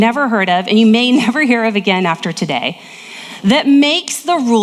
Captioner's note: laughs